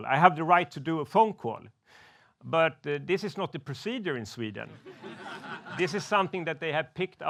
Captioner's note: laughs